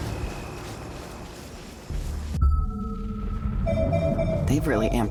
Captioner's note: phone ringing